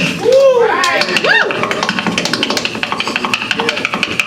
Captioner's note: audience cheering; tapping